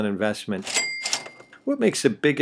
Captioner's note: sound of cash register ringing